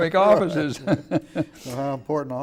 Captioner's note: laughing